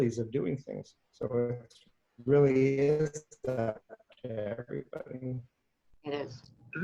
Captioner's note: microphone shuffling